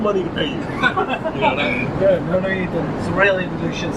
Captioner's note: mild laughter